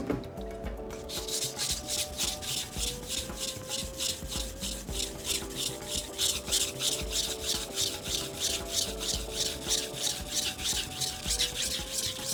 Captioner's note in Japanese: 刃先を研ぐ音